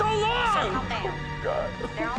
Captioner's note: sobs